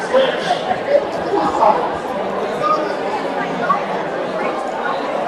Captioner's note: attendees chatting